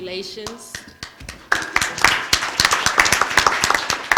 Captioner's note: applause